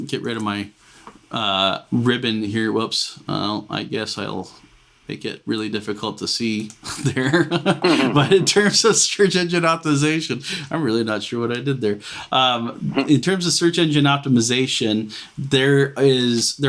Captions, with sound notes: I'll get rid of my ribbon here. Whoops! I guess I'll make it really difficult to see there. (laughs) But in terms of search engine optimization, I'm really not sure what I did there. In terms of search engine optimization,